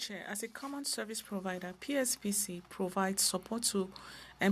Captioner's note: speaking French